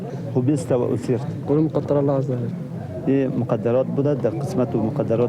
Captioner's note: speaking in a foreign language